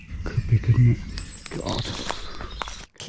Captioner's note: none